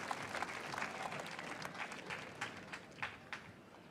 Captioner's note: applause